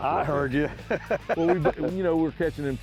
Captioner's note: laughter